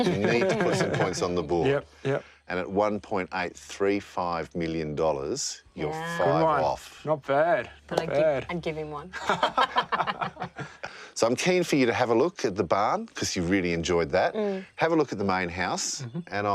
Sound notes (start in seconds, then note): 9.2 everyone laughs